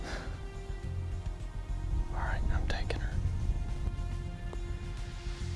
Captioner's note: whispering